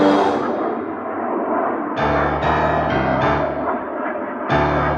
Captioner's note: airplanes rumbling